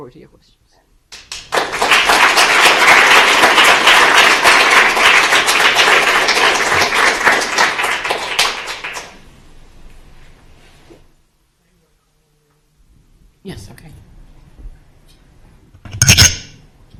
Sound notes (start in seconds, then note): 4.5 applause